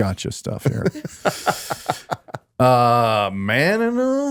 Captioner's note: Justin laughing